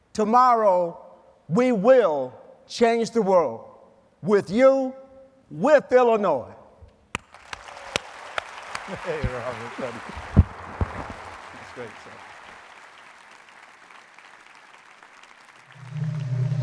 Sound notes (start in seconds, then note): 7.1 applause